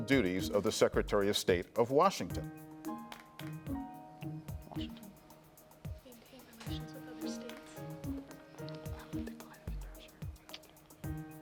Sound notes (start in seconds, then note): 3.0 pensive music; 6.4 team whispering